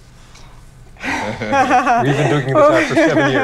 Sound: laughs

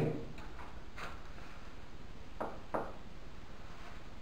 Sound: Lee - Knocks

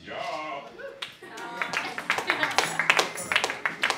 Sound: applause

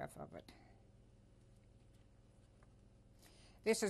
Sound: pauses for 3 seconds

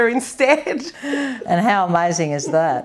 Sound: laughs

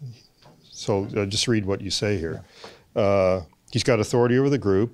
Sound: voiceover

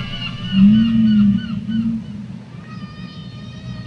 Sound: whale call

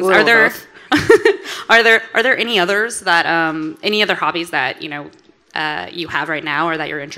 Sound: laughs

